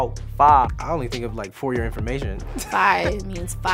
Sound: laughs

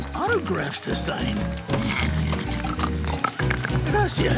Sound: snoring

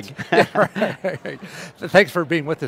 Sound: men laughing

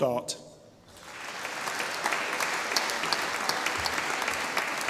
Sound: audience applauding

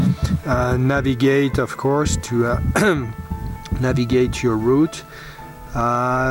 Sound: cough

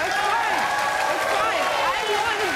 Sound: audience cheers

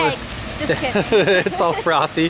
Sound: laughs

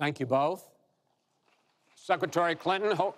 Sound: applause

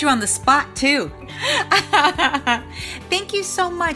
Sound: laughing

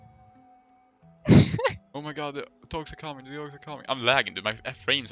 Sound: haha

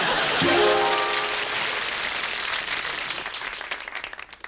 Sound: laughter; applause

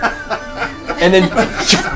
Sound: all laugh

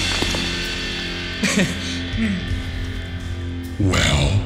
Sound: nervous laugh

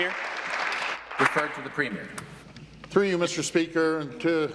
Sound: applause

